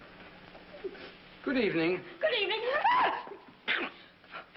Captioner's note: screams